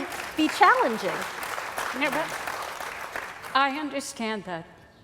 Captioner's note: applause